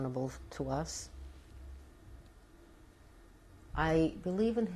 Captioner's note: pauses for 3 seconds